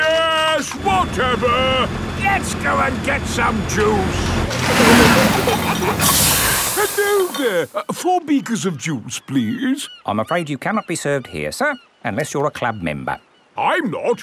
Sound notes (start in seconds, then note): 4.6 peppa and george giggling; 4.7 air hisses